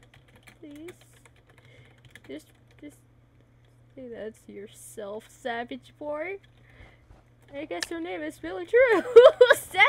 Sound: laugh

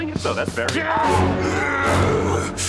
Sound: grunting

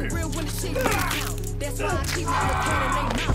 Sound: bone snapping; grunts and screams

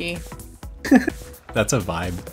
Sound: chortles

